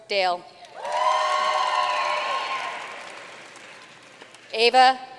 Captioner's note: audience cheering and applauding